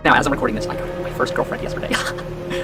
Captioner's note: sounds of incel glee